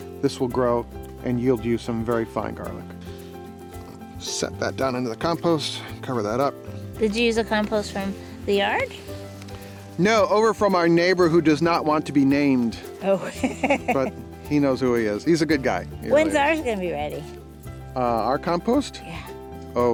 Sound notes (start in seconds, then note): 13.2 laughs